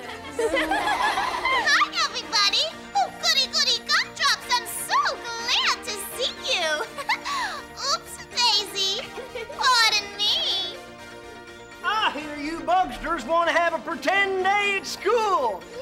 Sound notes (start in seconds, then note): 0.1 everyone laughs; 6.7 giggles